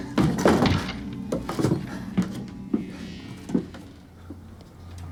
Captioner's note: Matt heavy breathing